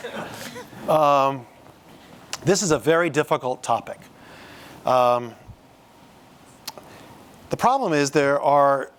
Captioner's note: laughter